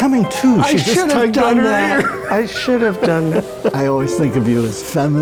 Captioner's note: laughs